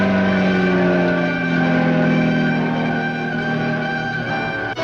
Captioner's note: car engine revving